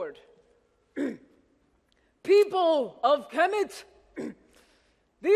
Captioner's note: clears throat; clears throat